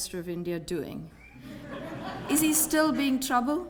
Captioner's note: laugh